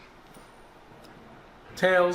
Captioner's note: soft clinking